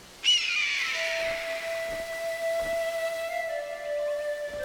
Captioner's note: cawing